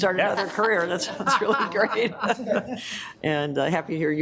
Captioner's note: members laughing